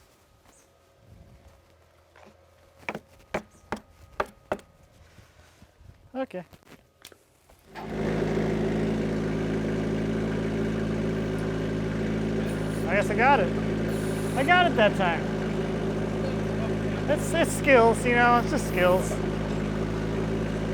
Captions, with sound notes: (hammer taps) Okay. (forklift rumbles) I guess I got it. I got it that time. It's skills, you know, it's just skills.